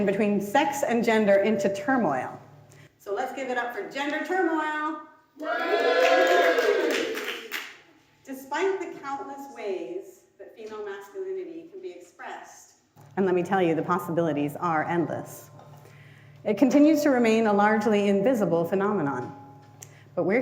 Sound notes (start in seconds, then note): 5.4 audience cheers